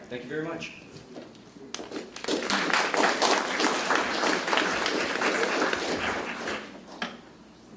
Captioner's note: applause